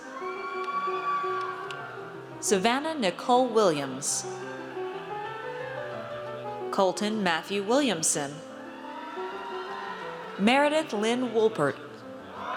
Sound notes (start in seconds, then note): 0.0 audience cheers; 8.5 audience cheers